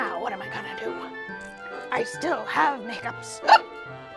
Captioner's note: hiccups